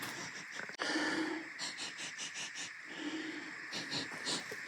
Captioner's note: sniffing